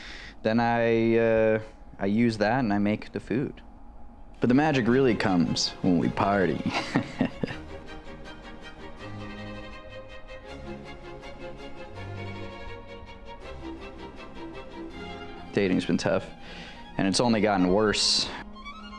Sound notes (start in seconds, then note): 5.9 chuckles; 8.5 classical music